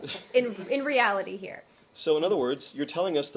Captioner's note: laughter